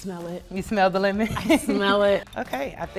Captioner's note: laughs